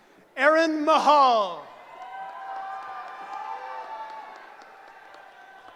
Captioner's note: cheering